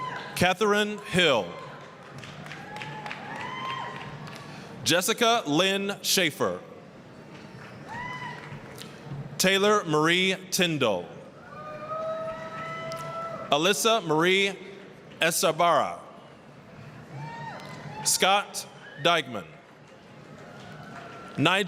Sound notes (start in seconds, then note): 0.0 applause, cheering; 2.4 applause, cheering; 7.5 applause; 11.5 applause, cheering; 17.1 applause, cheering; 19.6 applause, cheering